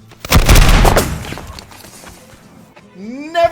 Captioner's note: multiple musket shots ricochet